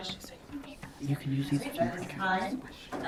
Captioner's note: whispering continues